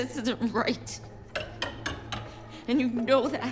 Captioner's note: tapping